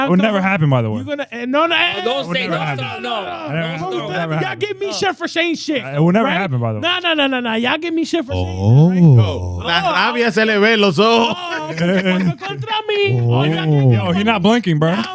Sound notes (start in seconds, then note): 9.6 speaking In Foreign Language